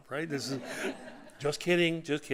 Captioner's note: audience laughing